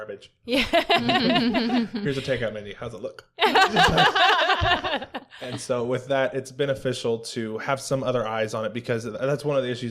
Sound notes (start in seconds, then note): 0.5 laugher; 3.4 laughter